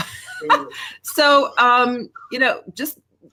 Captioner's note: laughs